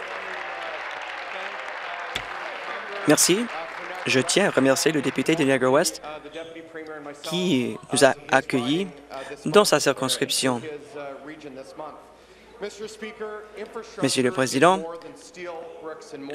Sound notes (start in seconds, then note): 0.0 applause; 4.7 continued applause